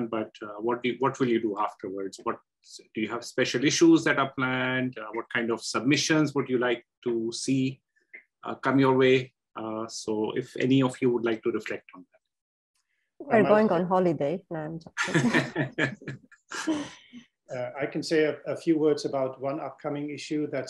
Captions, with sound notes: But what will you do afterwards? Do you have special issues that are planned? What submissions would you like to see come your way? So if any of you would like to reflect on that? We're going on holiday. And-- [LAUGHTER] I can say a few words about one upcoming issue.